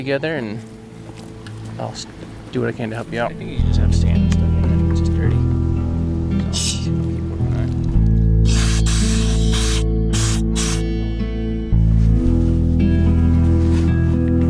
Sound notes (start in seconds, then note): 8.4 hose hisses; 11.8 gentle music